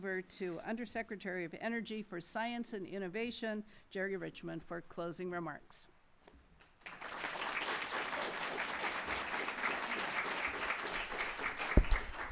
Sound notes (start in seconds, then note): 6.6 applause